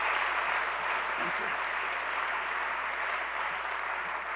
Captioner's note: applause